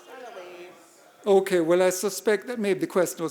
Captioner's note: audience murmuring